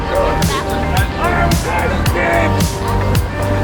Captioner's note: man yelling